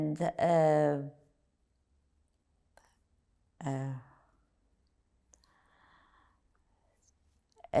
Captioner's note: pauses 6 seconds